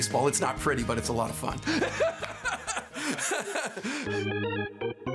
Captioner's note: laughing; lively organ music